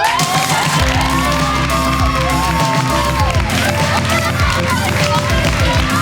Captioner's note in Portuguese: Gritos